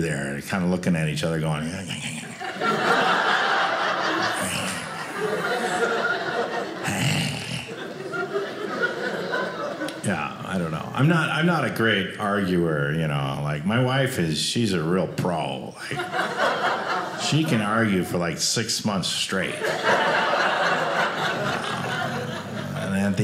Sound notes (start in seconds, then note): 2.0 imitates animals snarling; 7.3 audience laughing; 19.4 audience laughing